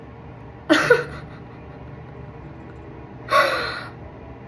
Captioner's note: laughing